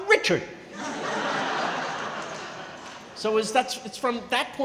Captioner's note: crowd laughing